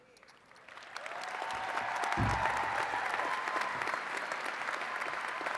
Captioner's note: attendees cheering and clapping